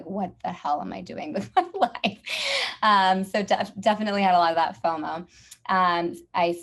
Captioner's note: laugh